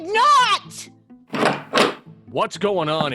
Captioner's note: door opens and footsteps enter